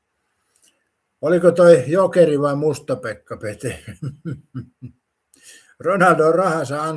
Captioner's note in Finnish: naurua